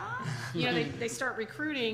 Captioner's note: chairman chuckles